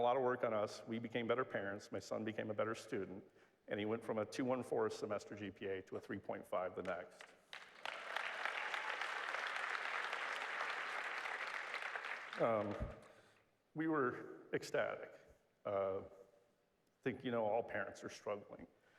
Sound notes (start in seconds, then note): 7.2 applause